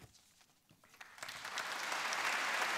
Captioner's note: applause